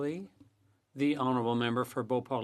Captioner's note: speaking French